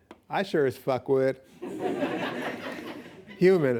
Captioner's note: laughing